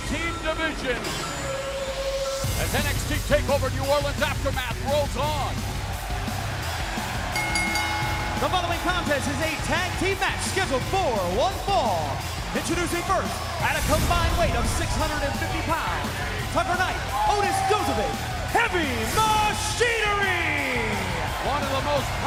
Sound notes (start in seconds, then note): 8.7 crowd cheering; 9.7 bell ringing